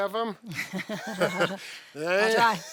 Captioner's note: both laughing